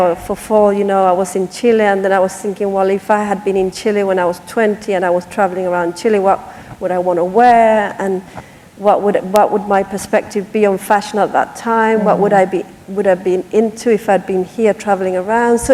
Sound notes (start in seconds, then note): none